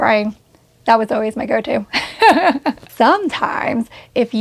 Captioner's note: laughs